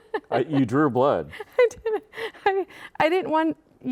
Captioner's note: laughing